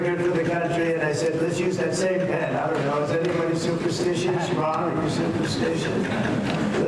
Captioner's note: laughter